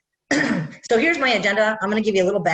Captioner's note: clears throat